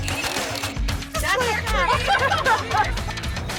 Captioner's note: tools whirring; driver laughing